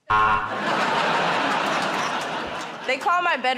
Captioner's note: buzzer